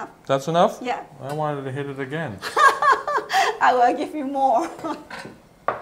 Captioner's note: laughs